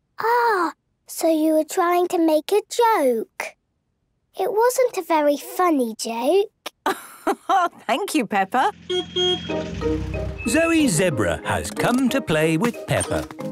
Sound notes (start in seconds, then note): 6.9 laugh; 8.8 honking